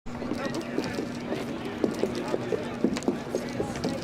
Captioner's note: crowd talking